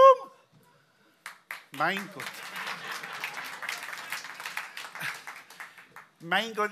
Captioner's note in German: Applaus